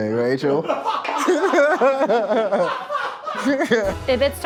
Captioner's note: all laughing